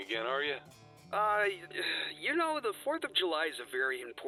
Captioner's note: groans